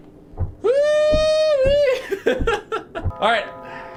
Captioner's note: laughs